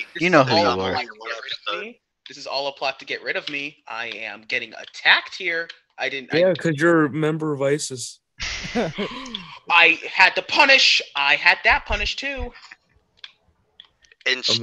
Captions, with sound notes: I'm here till Thursday. Try the veal! Ha, ha! - [Shrek Laughs] - [Crowd Gasping, Murmuring] Shall I give the order, sir? No, I have a better idea.